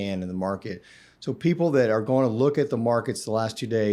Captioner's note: inhales